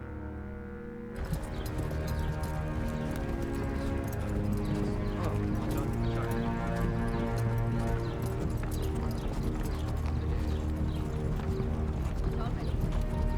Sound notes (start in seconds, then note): 1.6 wagon moving; 4.0 horse walking; 6.0 murmuring